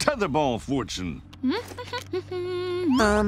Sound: humming

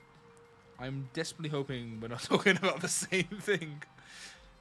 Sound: laughs

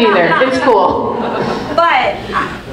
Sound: group laughs

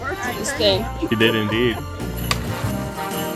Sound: laughing; upbeat festive music continues

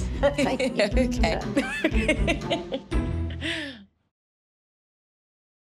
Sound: laughs

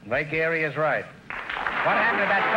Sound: applause

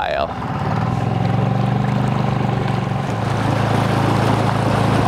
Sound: motor accelerating

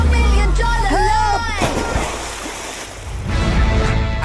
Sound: splash

